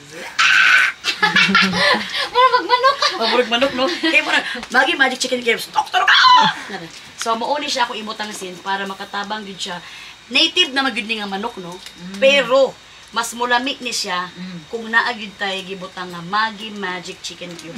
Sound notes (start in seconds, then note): 6.0 the sound of rooster